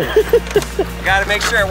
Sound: laughs

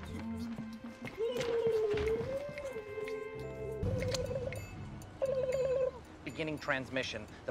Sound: ABED makes "alien" noises

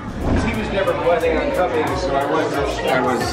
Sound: murmurs

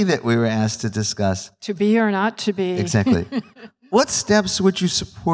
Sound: laughs

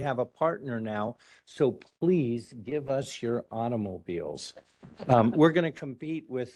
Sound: laughing

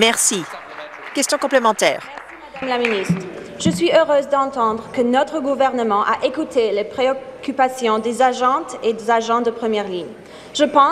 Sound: some Applause

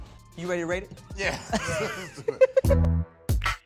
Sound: laughs; upbeat music

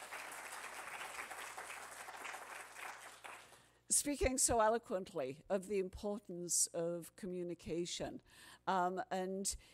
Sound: applause

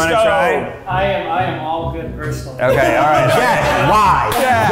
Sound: laughing

